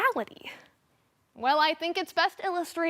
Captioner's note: silence